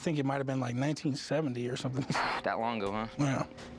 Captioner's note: laughs